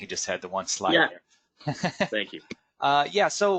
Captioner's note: laughing